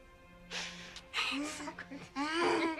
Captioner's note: laughs